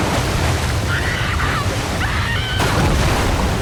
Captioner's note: screaming